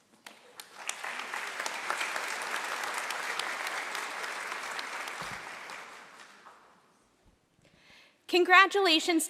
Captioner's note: applause